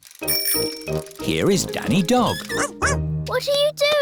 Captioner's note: bell ringing